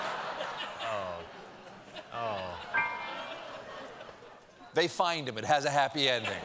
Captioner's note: laughter